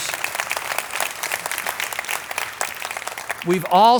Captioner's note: audience applauding